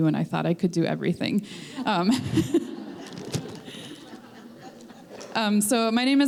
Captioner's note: laughter